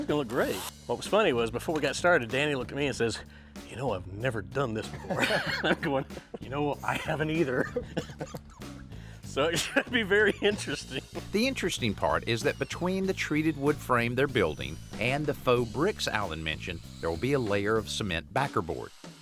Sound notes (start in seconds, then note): 4.8 both laugh